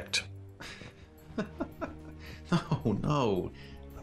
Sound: laughs

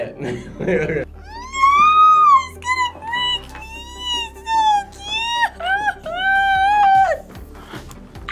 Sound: laughs; squeaking

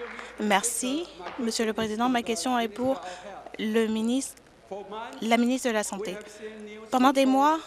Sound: applause

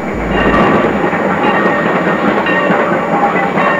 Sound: train bell

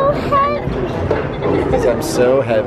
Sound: chuckling

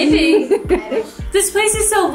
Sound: laughs

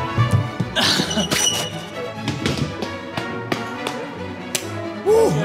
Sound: sneakers squeaking

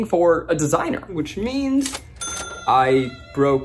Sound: chiming sound

